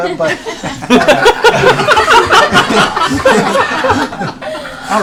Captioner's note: laughter